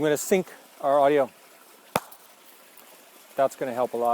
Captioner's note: clap